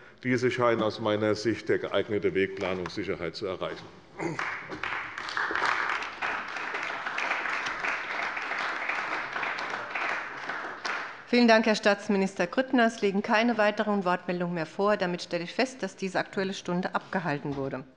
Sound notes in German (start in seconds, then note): 4.2 Beifall bei der CDU und dem BÜNDNIS 90/DIE GRÜNEN